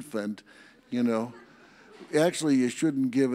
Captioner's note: audience laughs